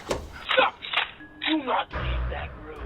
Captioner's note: gun cocking